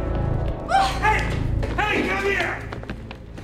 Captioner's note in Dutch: Alejandra krijst